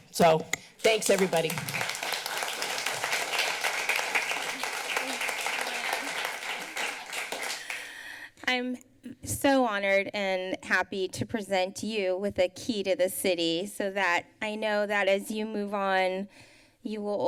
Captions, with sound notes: So thanks, everybody. [applause] -I'm so honored and happy to present you with a key to the city so that I know that as you move on, you will